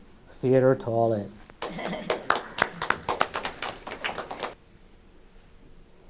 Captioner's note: audience applauding